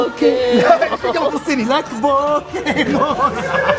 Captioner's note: laughs; sarcastically; laughs